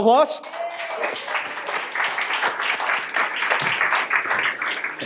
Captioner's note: audience applauds